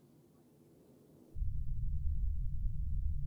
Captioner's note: none